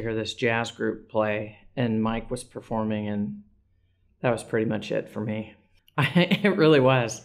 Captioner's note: laugh